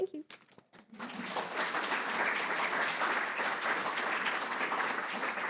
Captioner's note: audience applauds